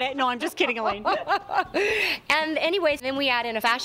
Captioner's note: laughing